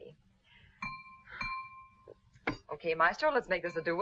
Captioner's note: knife clanging